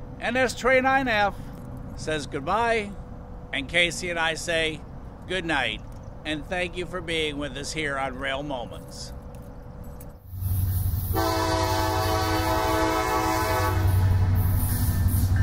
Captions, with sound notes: NS 29F says goodbye, and Casey and I say good night, and thank you for being with us here on Rail Moments. [THE VIRGINIAN'S HORN BLARES]